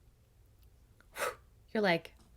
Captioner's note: sighs